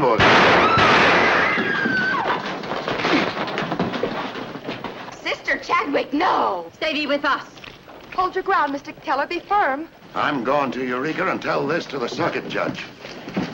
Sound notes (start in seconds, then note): 0.1 gun firing; 1.3 woman screaming